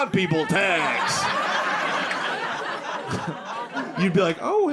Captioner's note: audience laughing